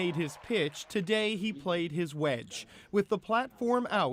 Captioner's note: cheers and Applause